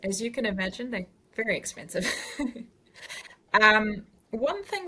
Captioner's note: laughs